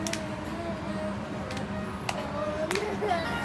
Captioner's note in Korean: 웃음